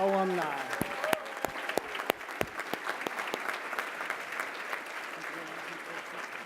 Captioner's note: applause